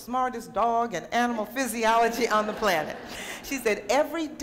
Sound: laughter

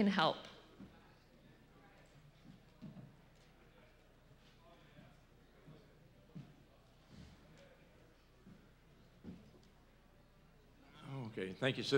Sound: silence

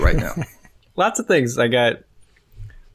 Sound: chuckles

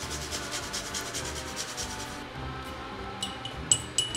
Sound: nutmeg grating

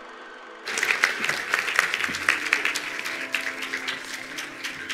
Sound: attendees applauding

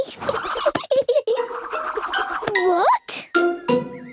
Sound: giggling

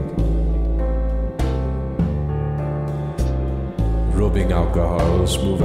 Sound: male voice speaking deeply in a bad french accent

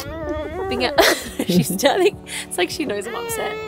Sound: laughs

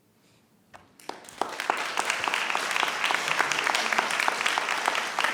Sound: audience applauds

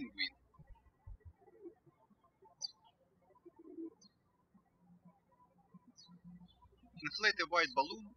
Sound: birds chirping

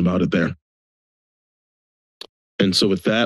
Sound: silence

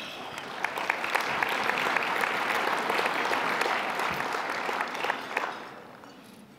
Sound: applause

